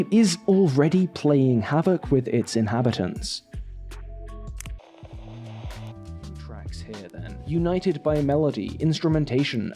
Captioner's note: click